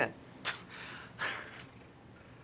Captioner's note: laughs